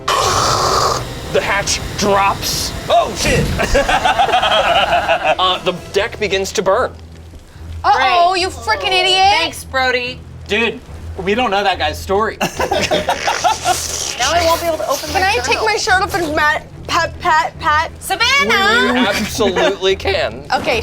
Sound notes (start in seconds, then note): 0.0 suspenseful music; 3.2 group laughs; 12.4 group laughs; 12.9 squelches